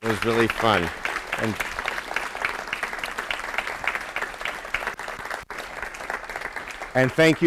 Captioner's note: applause